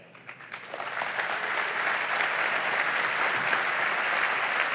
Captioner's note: audience applauds